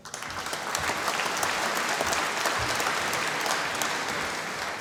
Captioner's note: applause